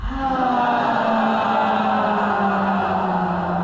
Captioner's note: loud sighing